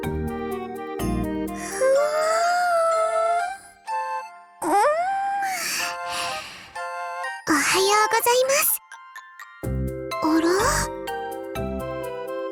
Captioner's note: yawn